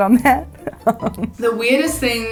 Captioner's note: laughing